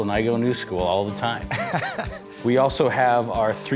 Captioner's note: laughing